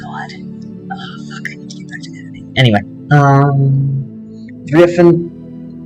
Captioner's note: whispered